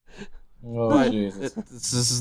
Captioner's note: laughs nervously